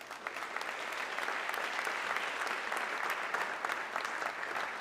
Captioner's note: audience clapping